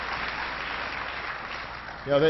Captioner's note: applause